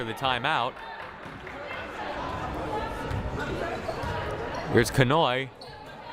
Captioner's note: crowd murmuring